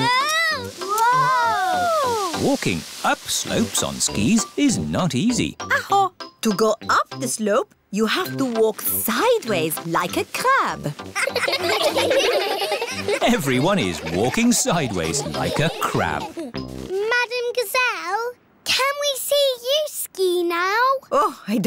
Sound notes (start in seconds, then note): 11.1 laughing